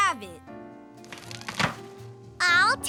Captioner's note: sound of tree falling with people to hear it